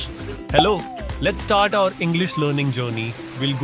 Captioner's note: German accent; Indian accent